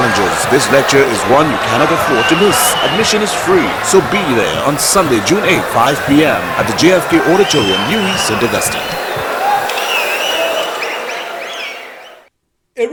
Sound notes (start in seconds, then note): 6.8 wild applause and cheering for 22 seconds